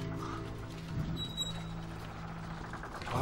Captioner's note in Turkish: Kapı gıcırtısı sesi